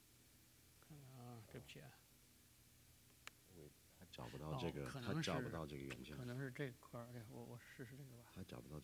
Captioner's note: speaking in Chinese